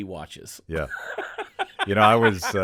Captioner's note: laughing